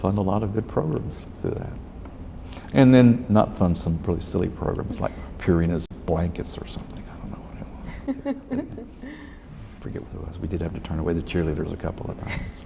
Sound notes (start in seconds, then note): 7.8 laughs